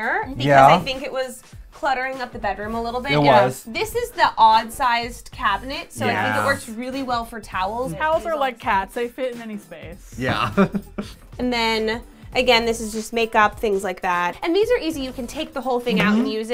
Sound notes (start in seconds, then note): 10.4 laughs